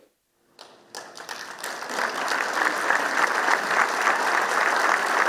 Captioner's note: applause